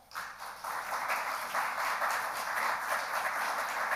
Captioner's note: audience applauds